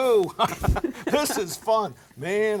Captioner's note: laughing